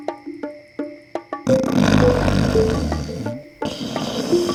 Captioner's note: snoring